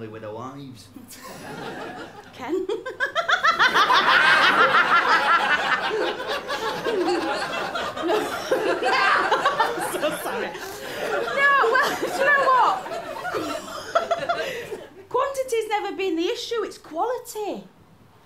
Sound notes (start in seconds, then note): 3.9 laughter; 13.0 residual chuckles